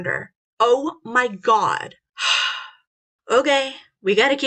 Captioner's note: sighs